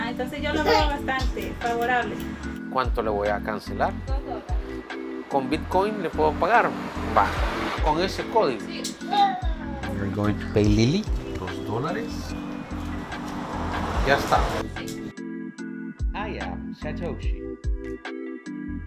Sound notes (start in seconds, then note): 0.1 speaking Spanish; 2.8 client speaking Spanish; 4.3 speaking Spanish; 5.4 client speaking Spanish; 8.7 speaking Spanish; 11.7 client speaking Spanish; 15.0 upbeat music